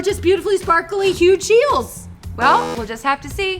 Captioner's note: buzzer sounds